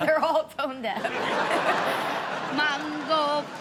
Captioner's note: audience laughs